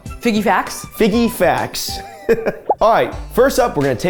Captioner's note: chuckles